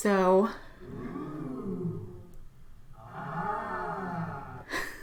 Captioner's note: amazed crowd cheering